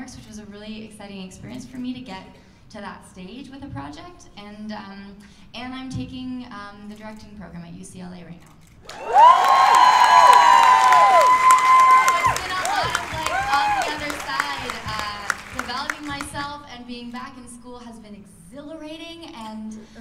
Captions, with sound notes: Which was a really exciting experience for me to get to that stage with a project and I'm taking the directing program at UCLA right now. [cheers and applause] So it's been a lot of, like, on the other side. Developing myself and being back in school has been exhilarating!